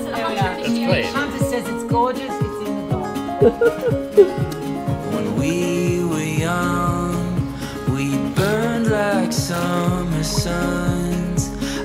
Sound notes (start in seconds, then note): 3.4 laughs; 4.7 lively music continues